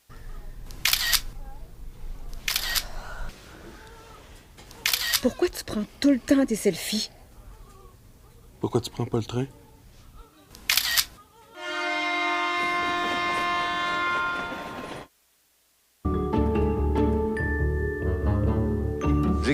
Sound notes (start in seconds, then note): 11.5 Sifflet de train; 16.1 Musique classique